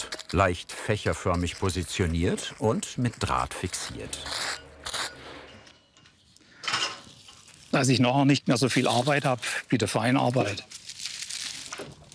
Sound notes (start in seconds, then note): 4.8 scraping noise